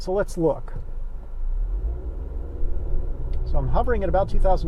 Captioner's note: engine revs